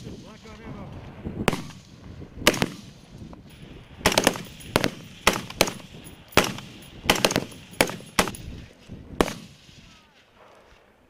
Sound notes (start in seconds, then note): 1.2 sound of semi-automatic gunfire